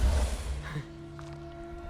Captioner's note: laugh